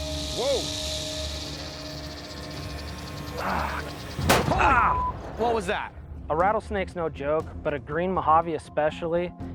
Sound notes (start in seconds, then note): 4.2 gunshot